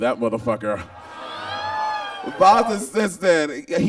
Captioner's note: Bob squeals